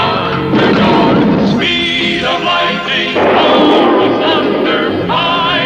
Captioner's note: explosion; lighting Strikes